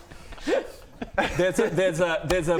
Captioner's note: cries